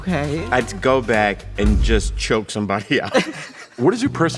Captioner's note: laughs